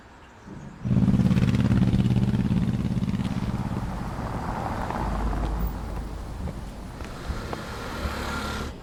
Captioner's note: street sounds